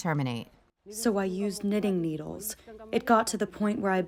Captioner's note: through translator